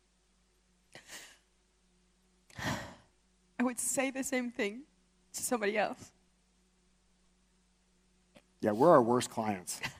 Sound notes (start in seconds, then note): 2.5 sighs